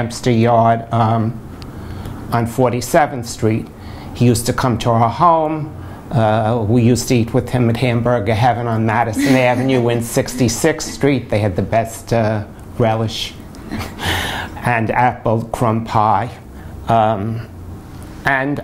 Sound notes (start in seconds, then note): 9.1 laughter